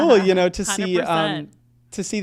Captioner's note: laughs